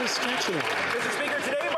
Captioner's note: some Applause